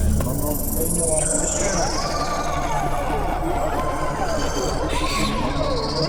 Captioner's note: screaming